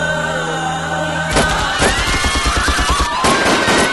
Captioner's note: gun Firing